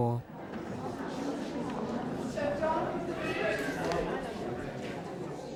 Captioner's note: people chattering